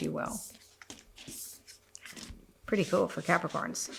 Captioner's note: cards rustle